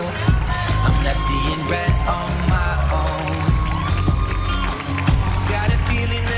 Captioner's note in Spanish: gritos